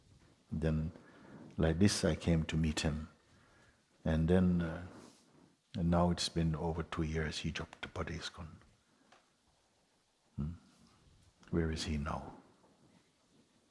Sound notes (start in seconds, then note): none